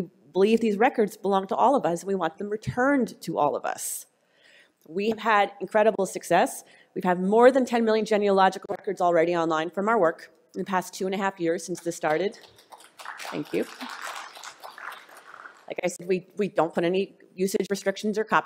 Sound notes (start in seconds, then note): 12.1 applause